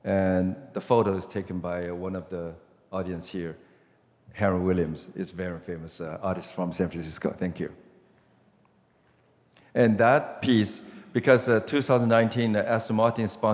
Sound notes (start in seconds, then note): none